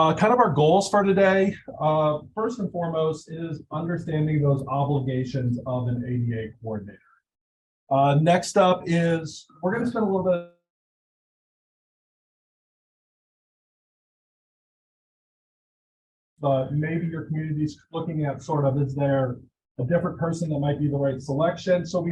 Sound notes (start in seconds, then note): 10.9 audio drop